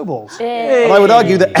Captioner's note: group cheers